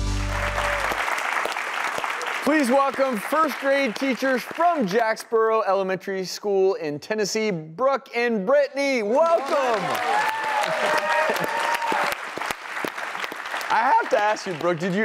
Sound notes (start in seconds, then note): 0.0 audience clapping; 9.0 audience cheers